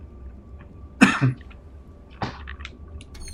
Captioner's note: coughs